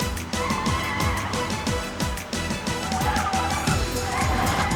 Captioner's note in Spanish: rechinar de llantas